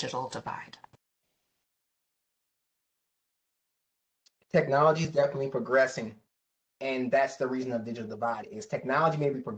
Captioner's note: professor speaking